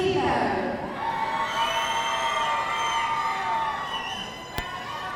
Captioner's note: audience cheering